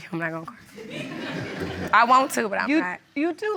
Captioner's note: audience laughs